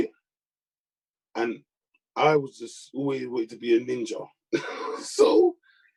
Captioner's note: chuckles